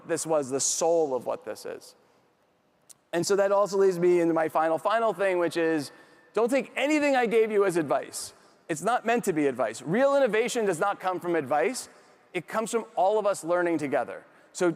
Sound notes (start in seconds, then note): none